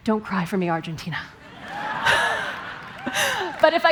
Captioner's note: laughter